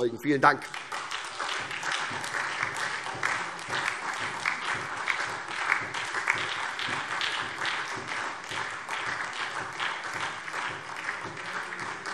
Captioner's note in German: Beifall SPD und vereinzelt DIE LINKE